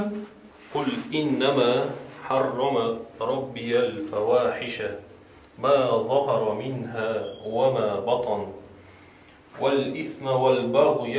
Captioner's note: reads in Arabic